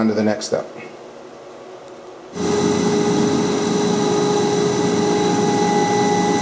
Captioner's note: machine sounds; more machine sounds